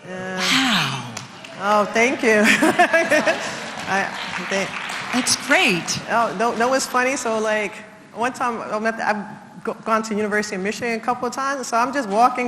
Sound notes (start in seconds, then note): 2.2 laugh; 4.5 applause